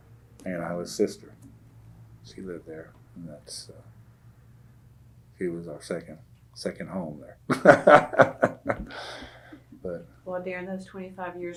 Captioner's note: laughs